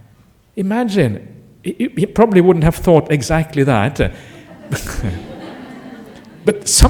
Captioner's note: laughter